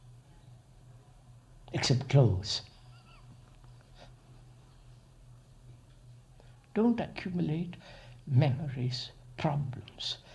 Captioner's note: laughs